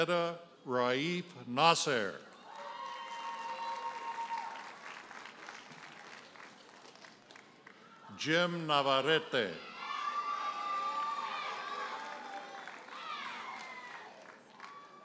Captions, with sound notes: Nahera Raif Nasser. (audience cheers and applauds) Jim Navarrete. (audience cheers and applauds)